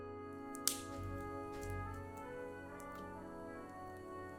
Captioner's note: fire crackling